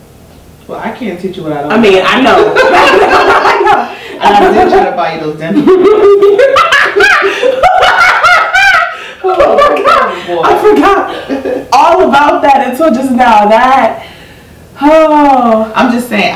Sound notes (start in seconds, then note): 9.4 laughing